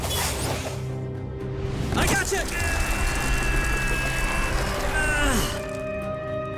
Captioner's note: groaning